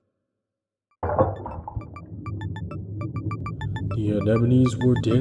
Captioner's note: splash, followed by happy music